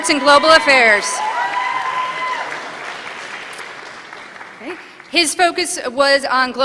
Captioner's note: applause